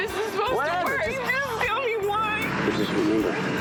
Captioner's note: tearfully